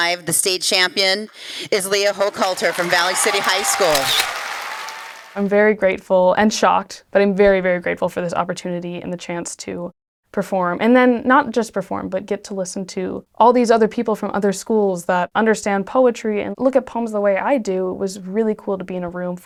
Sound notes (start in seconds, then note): 2.7 camera flashes